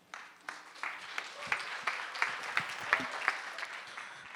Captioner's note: audience applauding